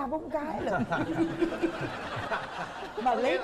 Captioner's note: laughing